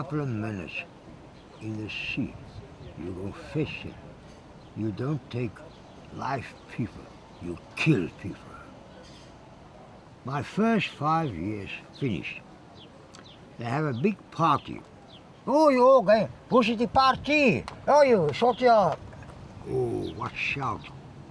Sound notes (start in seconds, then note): 16.7 speaks French